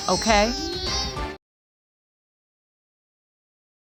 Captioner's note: crying